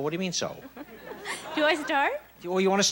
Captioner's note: laughs